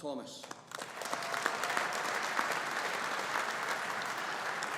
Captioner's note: audience applauding